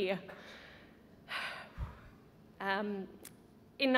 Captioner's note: exhales